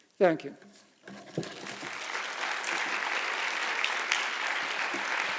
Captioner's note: audience applauding